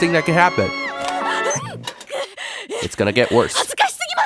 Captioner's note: Umi hyperventilating